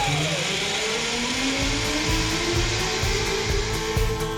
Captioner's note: zipline buzzing